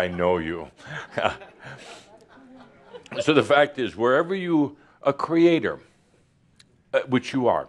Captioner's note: chuckles